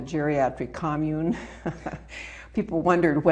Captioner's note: laughing